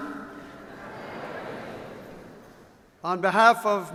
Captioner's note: crowd